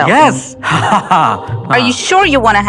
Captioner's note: laughs